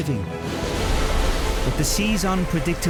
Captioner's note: waves crashing